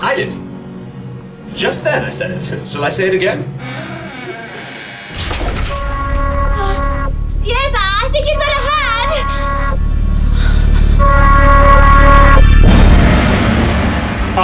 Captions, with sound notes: I did. Just then I said it. Shall I say it again? (door creaks and slams shut behind them) (alarms begin to blare) Yes, I think you'd better had!